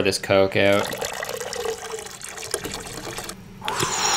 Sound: soda splashing; slurping

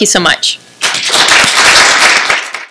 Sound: applause

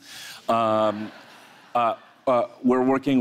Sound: audience laughs

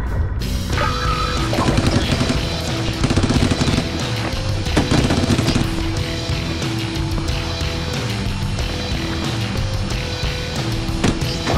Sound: gun noises

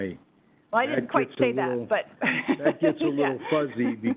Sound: laughs

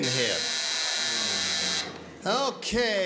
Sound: buzzer

